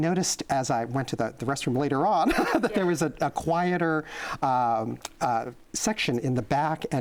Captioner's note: laughs